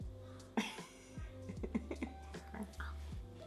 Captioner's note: laughs